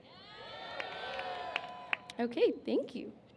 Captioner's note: cheers